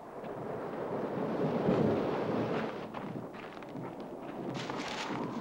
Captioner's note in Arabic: هدير الرعد